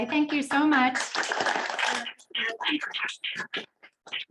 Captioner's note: applause